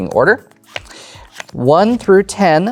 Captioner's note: cards slapping